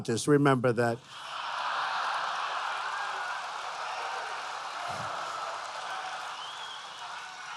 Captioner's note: laughter and applause